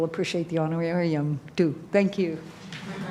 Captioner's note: applause